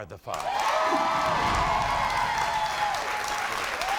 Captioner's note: audience cheers